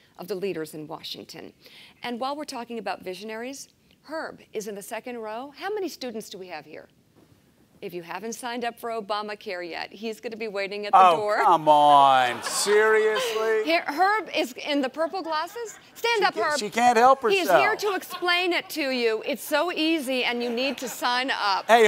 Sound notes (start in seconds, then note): 12.1 laughter